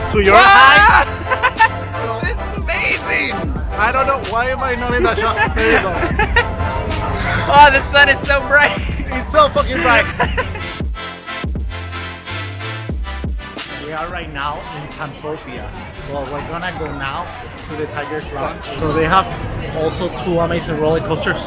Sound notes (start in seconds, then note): 0.2 laughs; 10.2 laughing; 11.0 upbeat music